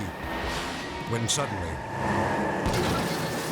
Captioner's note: tires squealing; tires explode